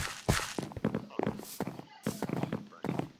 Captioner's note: impressed sounds